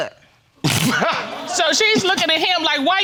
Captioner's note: laughs